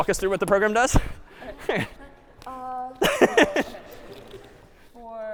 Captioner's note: laughter